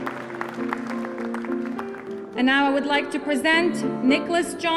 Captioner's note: applause